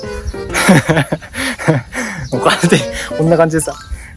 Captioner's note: laughs